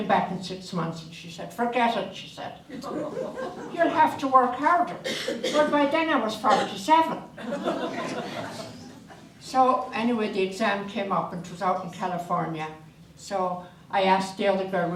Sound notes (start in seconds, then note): 2.8 audience laughter; 7.4 audience laughter